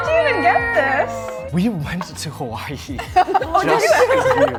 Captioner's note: chuckling; members laughs